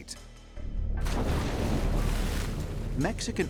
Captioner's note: water splashes